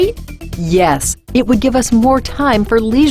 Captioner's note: voiceover